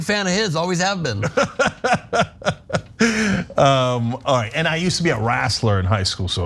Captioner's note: laugh